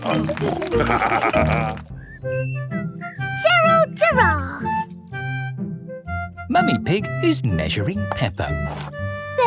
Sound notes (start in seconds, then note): 0.5 snorting